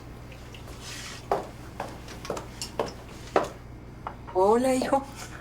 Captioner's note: footsteps approaching